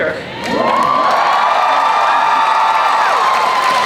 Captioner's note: cheering